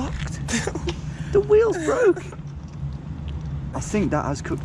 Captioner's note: laughs